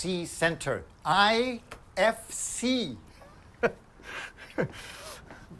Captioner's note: chuckles